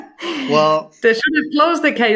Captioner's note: laughing